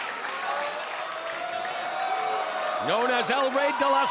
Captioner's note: audience cheering